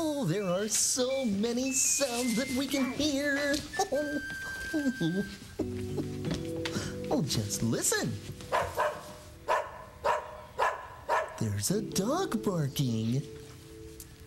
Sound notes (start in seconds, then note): 9.4 ruff ruff ruff